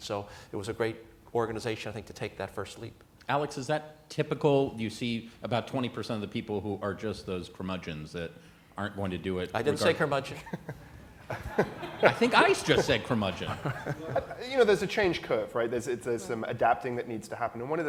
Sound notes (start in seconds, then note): 12.4 laughter